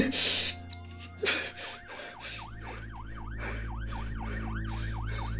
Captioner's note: police sirens wailing